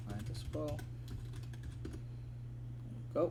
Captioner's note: typing